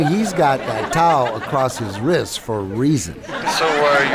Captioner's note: laughter